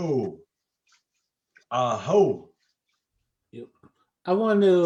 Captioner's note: speaks an indigenous language